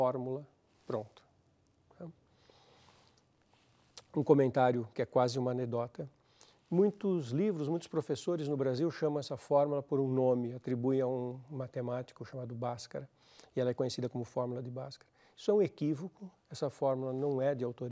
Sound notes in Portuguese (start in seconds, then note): 2.3 pausa sonora